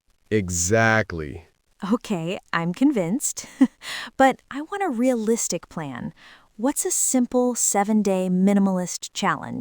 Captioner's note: laughs